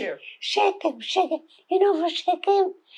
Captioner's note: hebrew